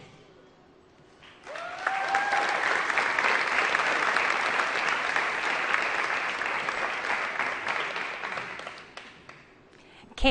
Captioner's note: applause